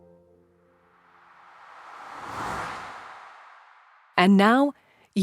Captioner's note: air whooshes